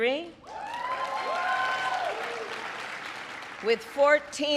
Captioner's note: applause